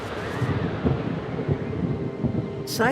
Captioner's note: thunder rumbling